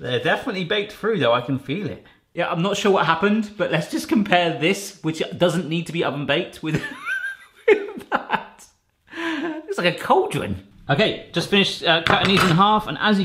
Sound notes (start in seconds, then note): 6.8 laughing